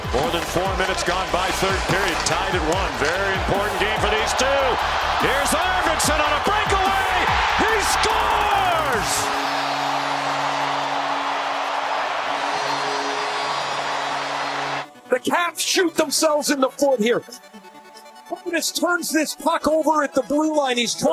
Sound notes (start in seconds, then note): 12.9 goal horn